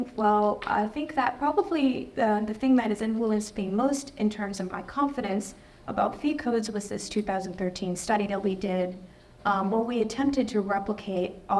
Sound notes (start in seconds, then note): none